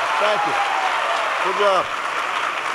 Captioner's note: applause